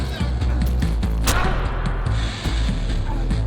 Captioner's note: smack